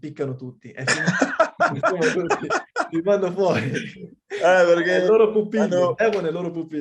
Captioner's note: laughs